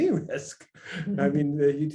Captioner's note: laughs